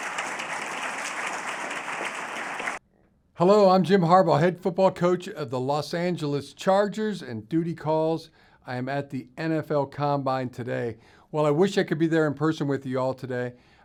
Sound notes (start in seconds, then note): 0.0 applause